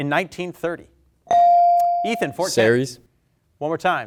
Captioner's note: bell dings